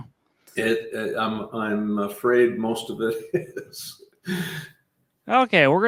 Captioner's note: laughing